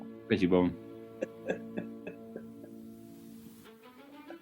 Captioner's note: chuckling